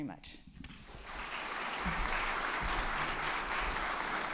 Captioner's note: attendees clapping